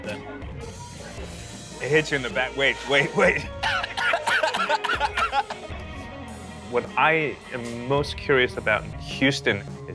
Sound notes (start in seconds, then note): 3.5 coughs and laughs